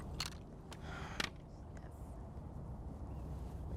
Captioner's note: metal of Guns Clicking